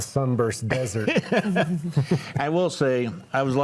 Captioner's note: laughs